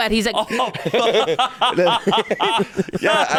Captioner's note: laughing